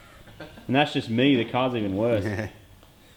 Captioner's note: laughs